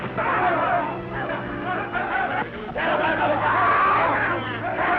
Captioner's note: Cat Worshipers shout